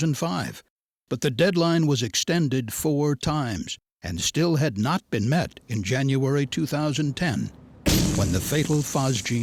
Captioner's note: hissing sound